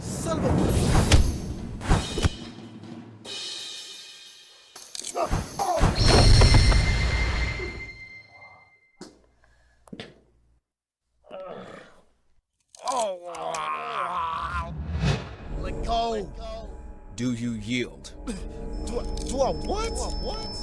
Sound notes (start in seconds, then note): 11.2 grunting; 12.8 groaning